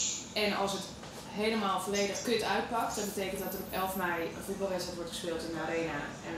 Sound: speaks in foreign language

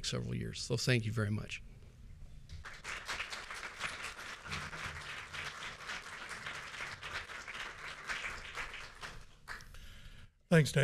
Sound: applause

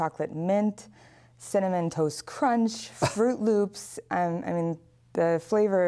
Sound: laughter

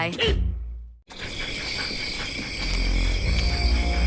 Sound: critter sounds

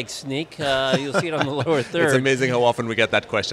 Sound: laughing

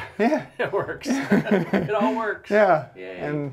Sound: chuckling

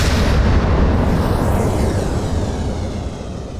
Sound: beeping followed by sound of rocket launching

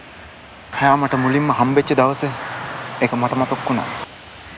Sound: in Sinhala

